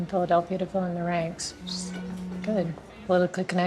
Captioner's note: cellphone vibrates